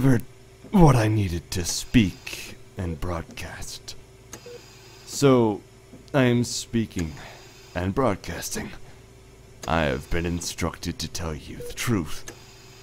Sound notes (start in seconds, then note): 0.0 mechanical ambiance; 2.7 mechanical ambiance; 11.4 mechanical ambiance